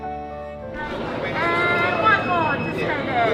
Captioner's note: crowd chattering